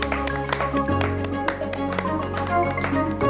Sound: clapping

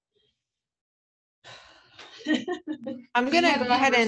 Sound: laugh

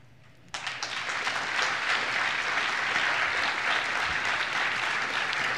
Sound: applause

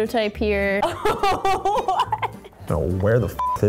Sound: laughing

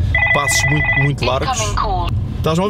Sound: phone rings

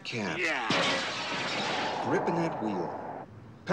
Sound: glass shatters

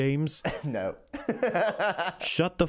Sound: laugh

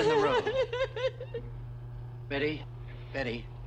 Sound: Betty weeps

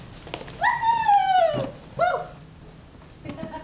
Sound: cheering

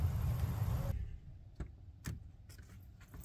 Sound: wind howling

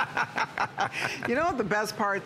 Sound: laughter

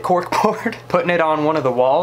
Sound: chuckles

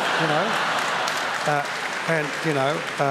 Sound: laughter

